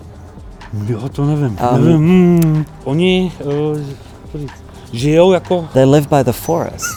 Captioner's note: shopkeeper speaks in foreign language